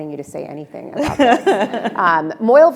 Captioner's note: Elena chuckling